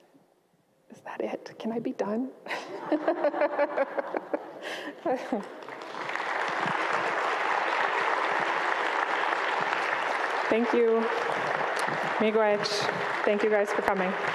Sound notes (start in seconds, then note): 2.6 laughs; 2.7 audience laughs; 5.4 audience applauds; 11.7 speaks in Ojibwa